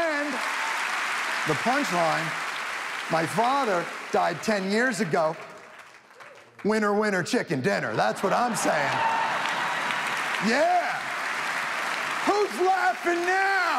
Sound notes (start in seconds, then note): 0.0 audience applauding; 5.3 man shouts qwer; 8.0 audience laughs